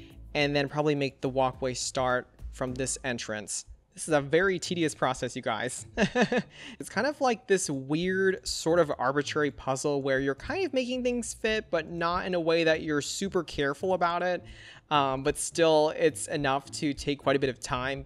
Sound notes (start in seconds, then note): 6.0 laughs